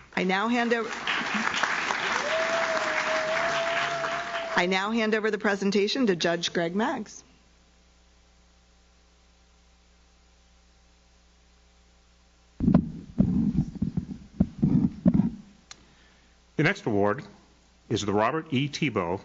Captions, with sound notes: I now hand over. (audience claps) I now hand over the presentation to Judge Greg Maggs. (microphone moving) - The next award is the Robert E. Thibault